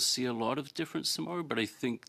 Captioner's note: speaking French